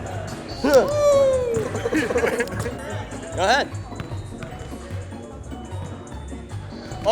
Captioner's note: laughs